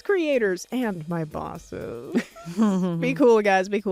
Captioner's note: chuckling